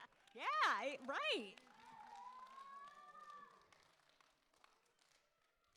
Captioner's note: appaluse